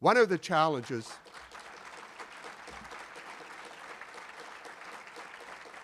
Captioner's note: audience applauding